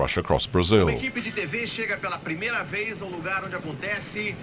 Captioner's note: Portuguese spoken audio